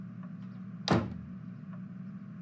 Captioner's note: door shuts